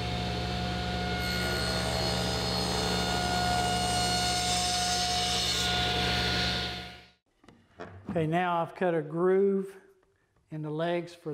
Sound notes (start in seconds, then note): 1.6 cutter cutting through wood